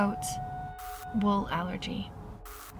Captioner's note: static crackles; static crackles